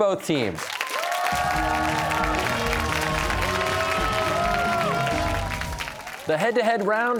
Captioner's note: cheers and applause